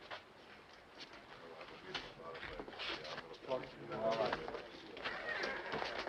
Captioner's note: townspeople chattering